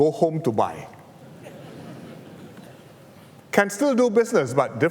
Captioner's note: laughter